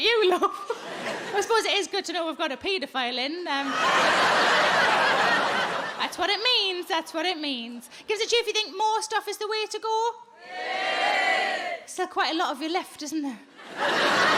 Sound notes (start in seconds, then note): 3.6 audience laughing; 10.5 audience cheering